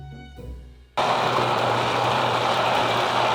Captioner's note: immersion blender running